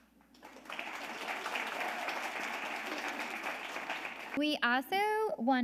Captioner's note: audience applauding